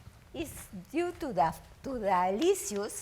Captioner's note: speaks foreign language